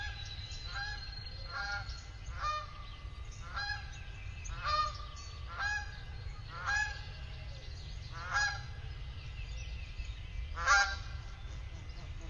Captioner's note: goose honking